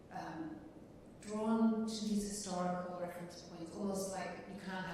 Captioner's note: none